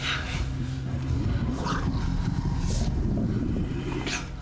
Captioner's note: groaning weakly